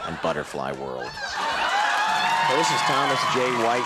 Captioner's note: audience cheers